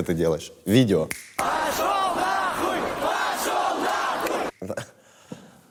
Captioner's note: snaps fingers; crowd shouts